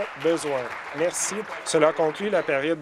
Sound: applause

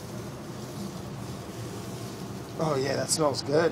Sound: sizzling

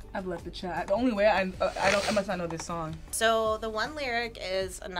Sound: none

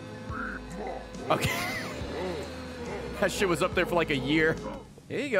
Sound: laughs

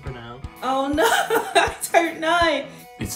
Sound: laughs

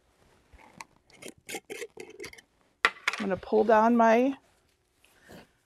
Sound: metal cap unscrewing; lid clatters on table

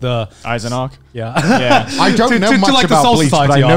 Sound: laughs

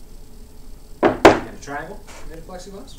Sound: heavy thud

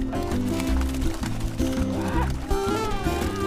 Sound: fish flapping

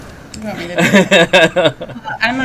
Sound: laughs

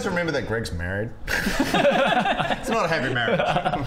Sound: shifty laughter

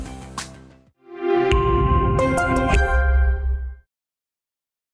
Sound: digital tone chimes

